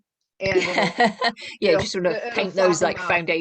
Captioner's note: laughter